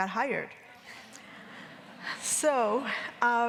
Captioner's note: audience laughing